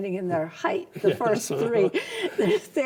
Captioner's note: both laugh